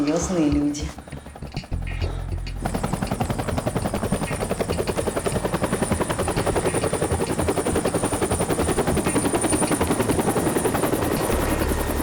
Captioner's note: helicopter engine